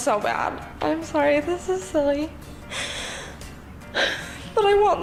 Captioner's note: crying